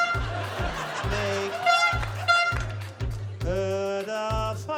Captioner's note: toot!; toot! toot!